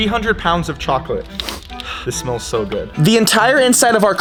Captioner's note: inhales deeply